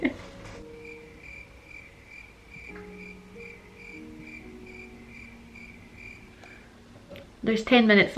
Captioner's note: crickets